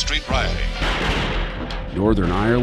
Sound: explosion

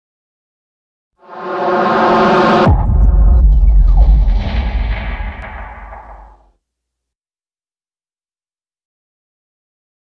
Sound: sound of rising

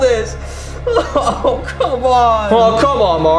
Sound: crying

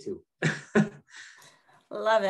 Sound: laughs

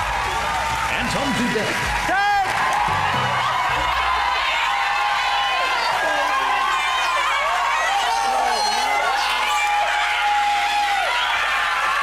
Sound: more screaming and shouting

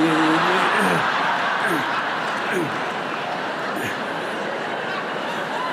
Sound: laughter

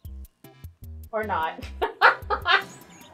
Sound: laughs

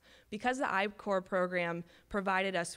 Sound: none

